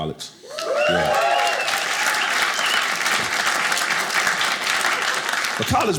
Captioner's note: audience cheering